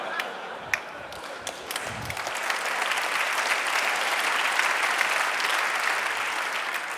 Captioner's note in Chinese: 笑聲; 掌聲